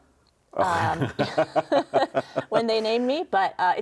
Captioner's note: laughs